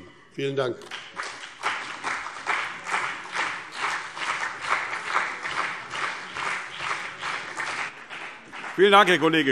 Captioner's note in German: Beifall BÜNDNIS 90/DIE GRÜNEN und CDU